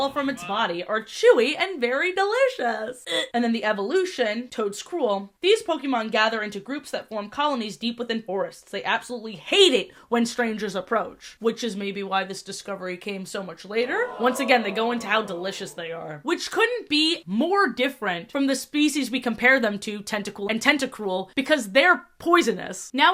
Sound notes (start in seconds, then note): 13.8 crowd "ooh" sfx